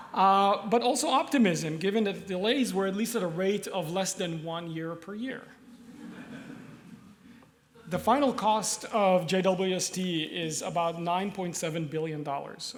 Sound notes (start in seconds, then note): 5.7 laughter